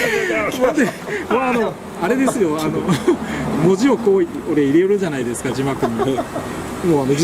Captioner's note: laughs